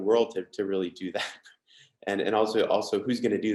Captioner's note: chuckles